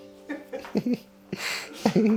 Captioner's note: laughter